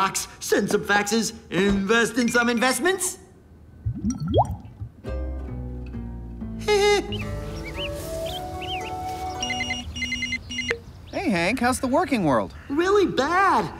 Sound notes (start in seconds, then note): 6.6 laughs nervously; 9.5 phone ringing